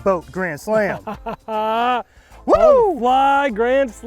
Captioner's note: laughing